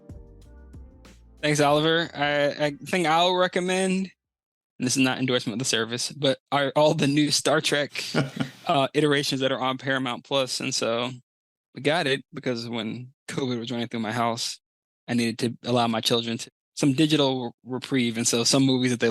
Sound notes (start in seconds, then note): 8.1 giggle; 8.1 laughs